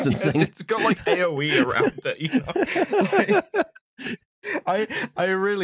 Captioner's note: laughter